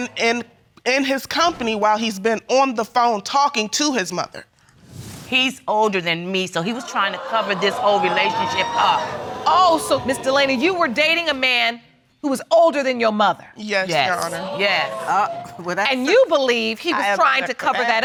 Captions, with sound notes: 'Cause I've been in his company while he's been on the phone talking to his mother. He's older than me, so he was trying to cover this whole relationship up. (CROWD GASPING) Oh, so, Miss Delaney, you were dating a man who was older than your mother. Yes, Your Honor. Yes, yes. And you believe he was trying to cover that up